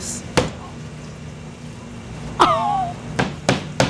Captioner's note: mallet thudding; chuckling; mallet thudding